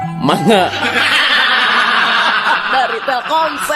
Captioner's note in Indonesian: tertawa